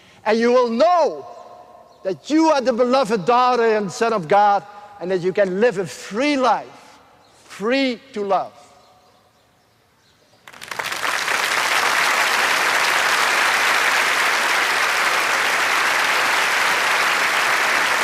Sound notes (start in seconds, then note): 10.4 applause